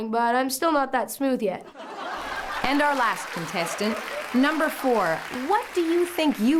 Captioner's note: laughs and applause